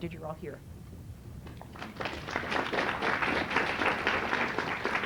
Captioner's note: applause